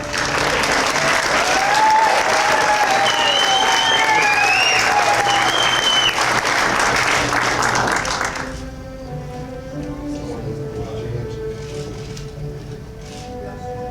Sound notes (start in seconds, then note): 0.0 applause and Cheers